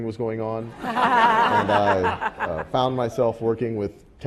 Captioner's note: laugh